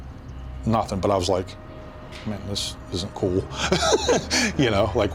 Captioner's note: laughs